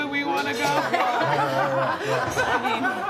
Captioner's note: laughs